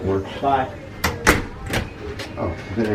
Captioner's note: door slams